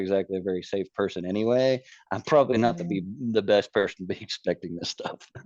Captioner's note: laughs